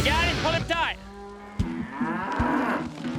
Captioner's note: cow moos